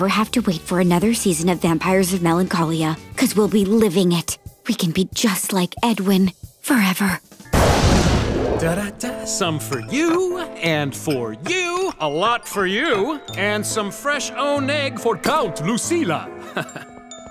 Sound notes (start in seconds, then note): 7.7 humming; 16.4 chuckles